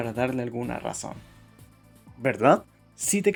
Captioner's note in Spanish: Silencio